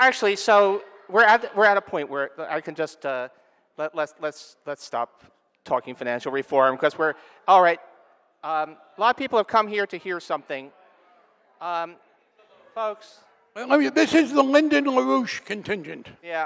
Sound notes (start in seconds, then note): 11.0 audience grumbling